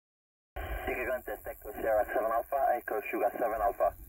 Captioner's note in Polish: communication via radio